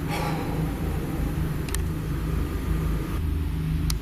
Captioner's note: sighing